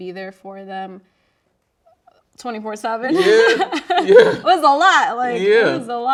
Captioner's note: laughing